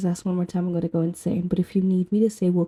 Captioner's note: whispering